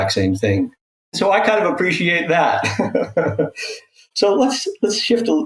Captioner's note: laughs